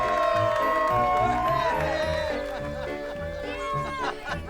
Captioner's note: all cheering